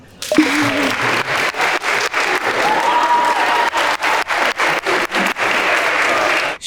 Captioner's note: electronics ring; group applauds; group cheers